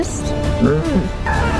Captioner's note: creature grunts; screams